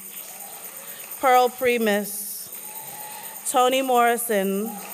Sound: applause; applause

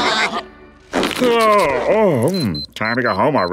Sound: laughing; yawning

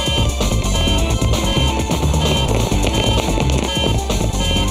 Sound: warning alarm

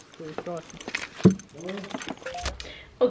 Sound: door being opened and keys jingle; door being closed and people chatting in Norwegian in the distance; phone message notification

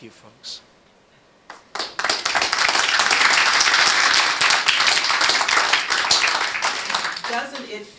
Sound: applause

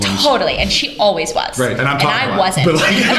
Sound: laughter

